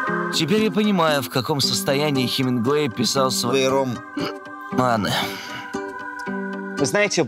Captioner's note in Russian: икнул